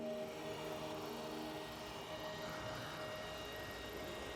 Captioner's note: leaf blower